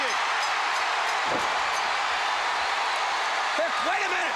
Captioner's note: crowd cheering; bell ringing